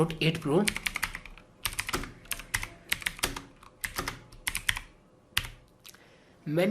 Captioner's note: keyboard sound